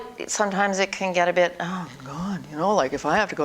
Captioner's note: tired sigh